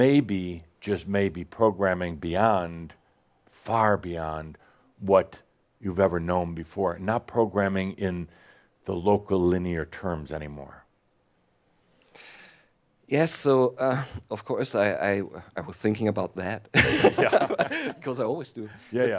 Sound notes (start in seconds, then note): 16.7 he laughs